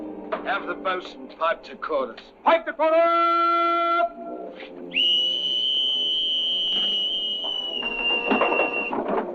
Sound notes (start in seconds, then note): 2.5 yelling; 4.9 whistle blowing